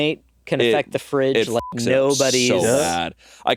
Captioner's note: beeping